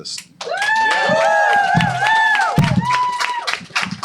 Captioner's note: cheers and applause